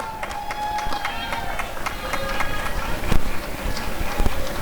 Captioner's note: applause and cheering